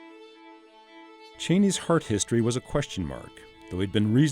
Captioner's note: voiceover